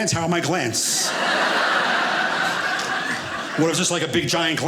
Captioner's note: audience laughing